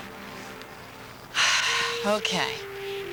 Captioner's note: sighing